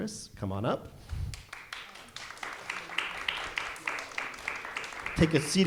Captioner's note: audience applauding